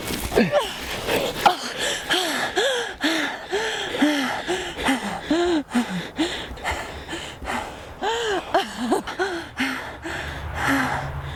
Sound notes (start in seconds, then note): 1.6 panting; 8.8 laughing